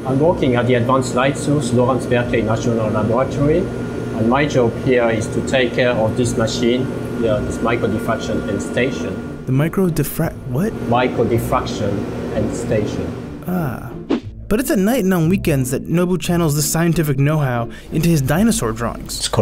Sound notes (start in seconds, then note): 9.6 voiceover; 13.4 voiceover